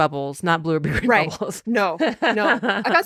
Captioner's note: laughing